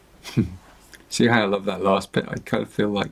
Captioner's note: chuckles